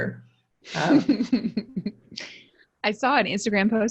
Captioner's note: laughs